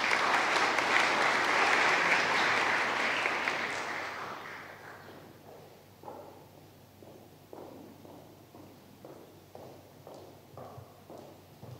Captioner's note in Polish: oklaski